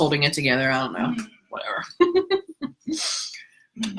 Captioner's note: laughs